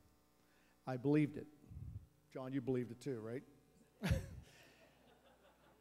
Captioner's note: laughs